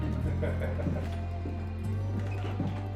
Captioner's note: chuckling